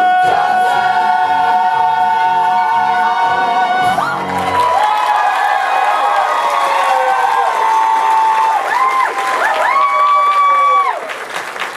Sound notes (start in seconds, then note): 1.3 echoing; 3.9 audience applause and cheers